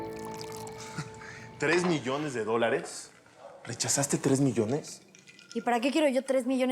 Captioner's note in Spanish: sonido al verter